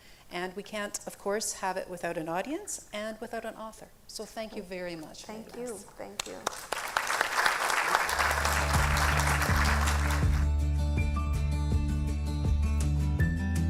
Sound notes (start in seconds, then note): 6.2 audience applauding; 10.6 pleasant music